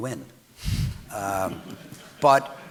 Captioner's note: audience laughing